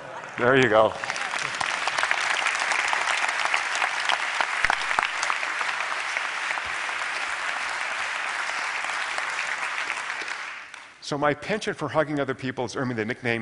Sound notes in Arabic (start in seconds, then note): 2.2 تصفيق